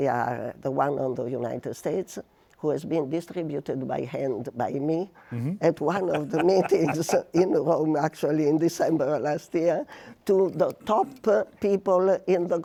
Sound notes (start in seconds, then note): 5.8 laughs